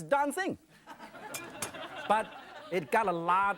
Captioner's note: audience laughs